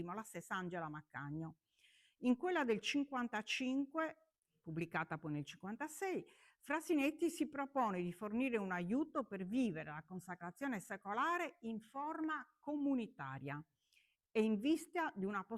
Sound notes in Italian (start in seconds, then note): none